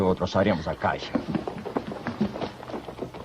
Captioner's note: hoofbeats approaching